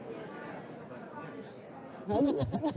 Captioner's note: laughing; both laughing